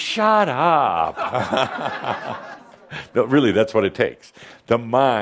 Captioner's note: some chuckles